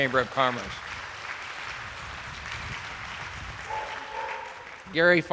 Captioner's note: attendees applauding